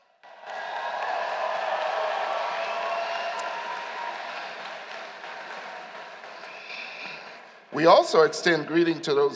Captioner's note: applause